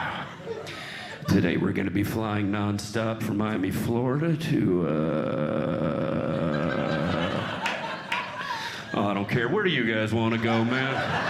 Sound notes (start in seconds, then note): 0.0 audience Laughing; 6.0 audience Laughing